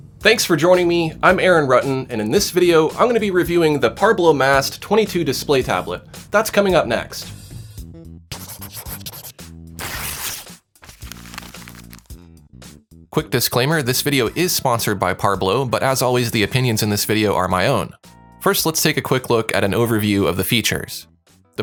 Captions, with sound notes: - Thanks for joining me. I'm Aaron Rutten and in this video I'm going to be reviewing the Parblo Mast 22 display tablet. That's coming up next. (funky music) (scribbling) (paper ripping) (paper crumpling) Quick disclaimer. This video is sponsored by Parblo, but as always, the opinions in this video are my own. First, let's take a quick look at an overview of the features.